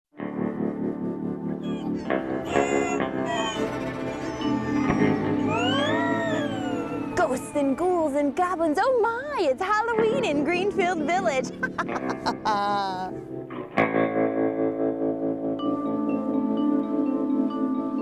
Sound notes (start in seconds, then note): 0.8 ghastly music; 11.5 laughs